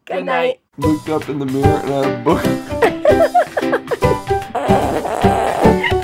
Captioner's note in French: rires